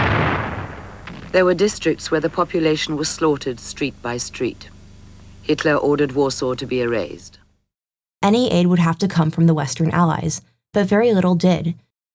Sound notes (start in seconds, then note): 0.0 bomb explodes